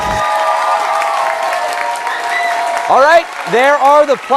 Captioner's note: cheers and applause